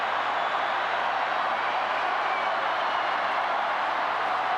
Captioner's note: crowd cheering continues